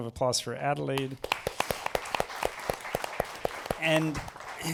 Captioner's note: applause